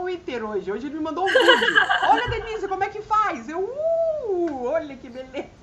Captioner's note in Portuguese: risadas